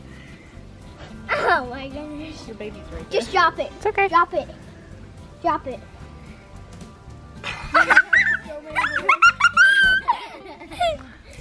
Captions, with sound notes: - (laughs) Oh my gosh! - Your baby's very-- - Just drop it. - It's okay! - Drop it, drop it. (laughing)